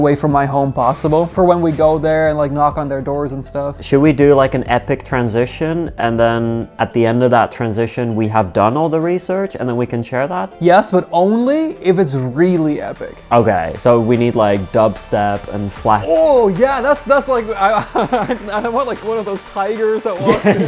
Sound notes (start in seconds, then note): 17.7 laughs; 20.0 laughing; 20.0 laughs